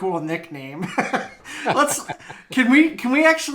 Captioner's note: both laughing